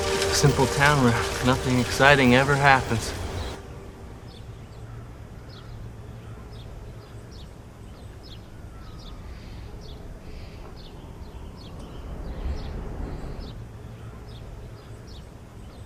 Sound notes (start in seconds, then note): 3.2 birds chirping; 3.2 wind blowing